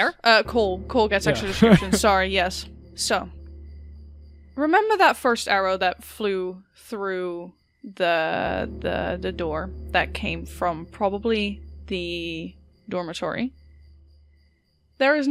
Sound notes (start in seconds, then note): 1.2 chuckles